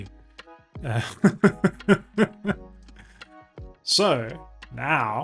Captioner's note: laughs